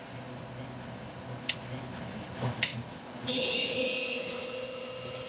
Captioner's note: mill Whirling